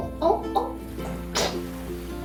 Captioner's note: splat